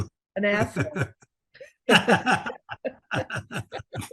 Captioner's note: laughter